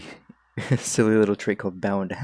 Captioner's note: heheh